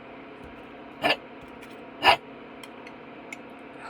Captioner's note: bark